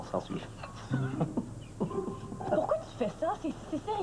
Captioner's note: Rires